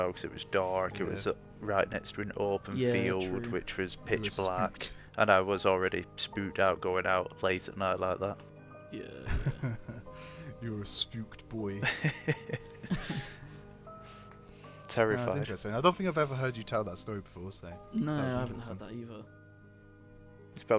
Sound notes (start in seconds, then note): 9.2 laughter; 12.8 more laughing